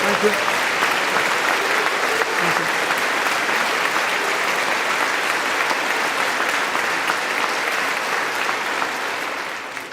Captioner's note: applause